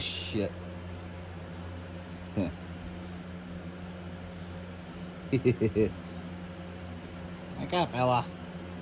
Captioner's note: Ella laughs